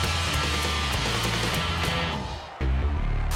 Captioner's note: crowd cheering; rock music; bass heavy music